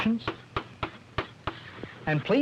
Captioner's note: chalk tapping